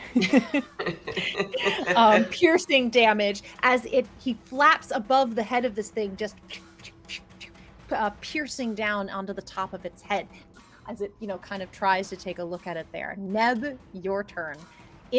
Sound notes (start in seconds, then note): 0.0 characters laugh; 6.9 sputters